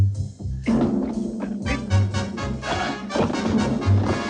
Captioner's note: thudding; suspenseful music